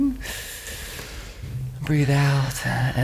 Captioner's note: deep breathing